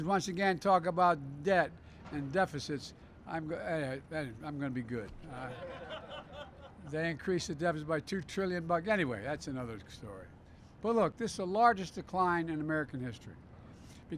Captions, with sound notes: once again talk about debt and deficits, I'm going to -- anyway -- I'm going to be good. (Laughter.) They increased the deficit by 2 trillion bucks. Anyway, that's another story. But, look, this is the largest decline in American history.